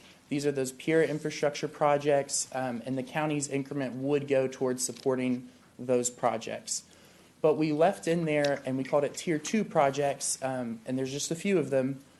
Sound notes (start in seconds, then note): 8.1 rustling of papers